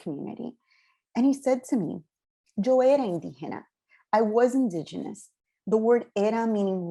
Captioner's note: spanish